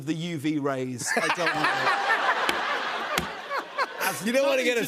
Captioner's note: laughter